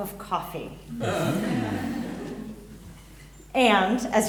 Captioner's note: audience laughs